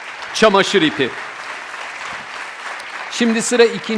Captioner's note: the audience applauds